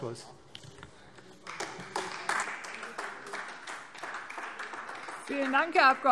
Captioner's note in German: Beifall AfD